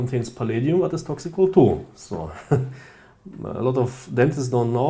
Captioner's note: chuclking